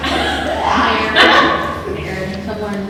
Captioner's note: laughter